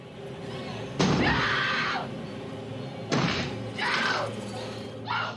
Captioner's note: screams; screams